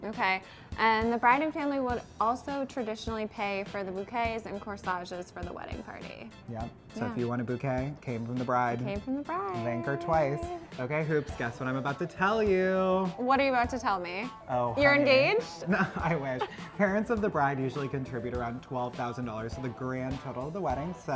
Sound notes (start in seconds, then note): 15.1 laughs